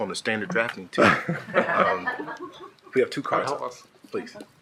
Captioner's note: shared laughing